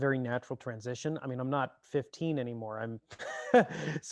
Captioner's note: chuckles